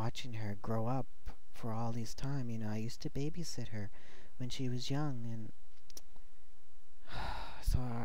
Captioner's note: sigh